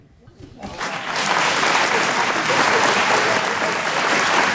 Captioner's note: audience applauding